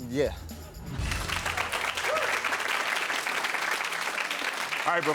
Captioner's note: audience claps